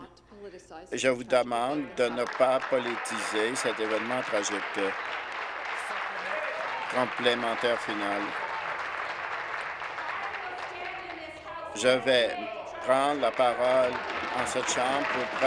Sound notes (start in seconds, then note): 7.1 applause